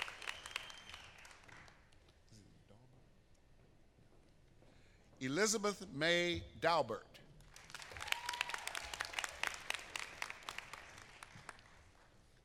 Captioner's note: applause